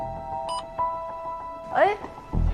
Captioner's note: beep